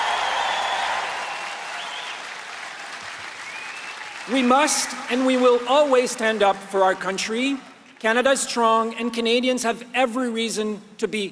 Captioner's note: applause